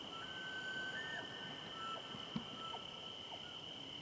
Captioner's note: elk bugles